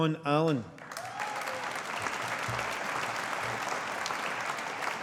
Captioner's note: audience applauding